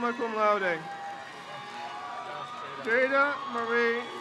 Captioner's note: crowd cheers